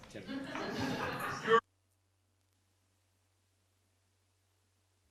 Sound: audio cuts out

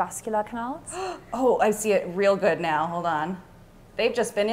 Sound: gasps

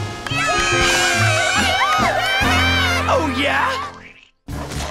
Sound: all cheer

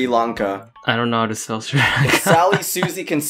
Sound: chuckles

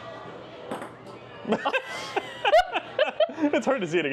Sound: both laugh

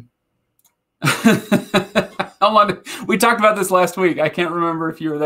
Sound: laughing

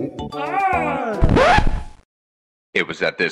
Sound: record scratch

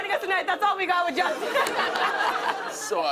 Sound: laughter

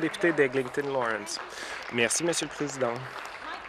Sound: applause

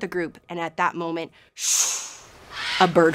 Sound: making swooshing sound

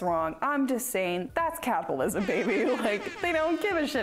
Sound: air horn blares

